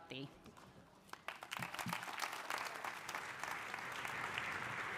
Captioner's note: audience applauding